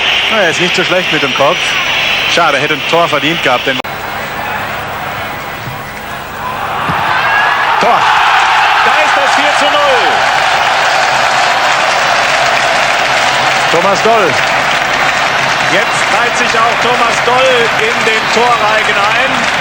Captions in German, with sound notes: Na, er ist nicht so schlecht mit dem Kopf. Schade, hätte ein Tor verdient gehabt den [jubel][schreien] Tor. Da ist das 4:0 Thomas Doll. Jetzt reit sich auch Thomas Doll in den Torreigen ein.